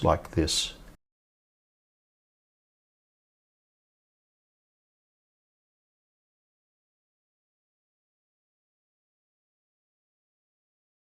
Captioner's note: silence